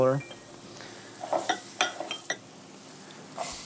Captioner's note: sizzling sound